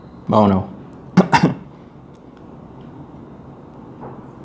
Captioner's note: speaking in Spanish; coughing